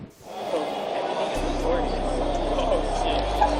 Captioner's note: crowd noise